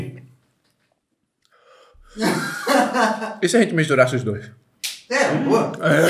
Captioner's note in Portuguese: risos